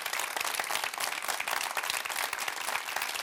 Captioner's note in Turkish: alkış